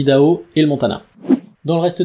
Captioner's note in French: Son de transition